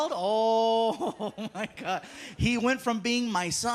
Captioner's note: laughing